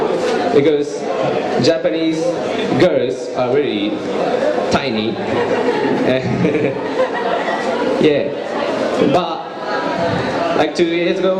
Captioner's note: laughs